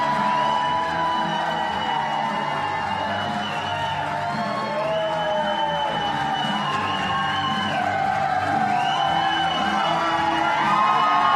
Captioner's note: applause